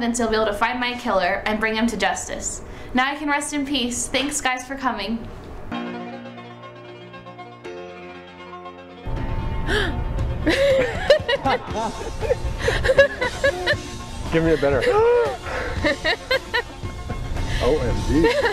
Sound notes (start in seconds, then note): 6.5 laughter and music plays